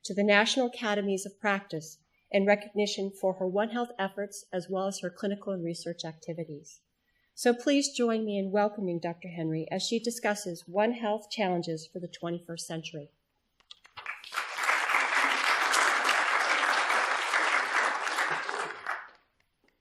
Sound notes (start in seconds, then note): 12.5 applause